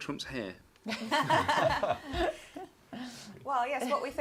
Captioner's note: laughter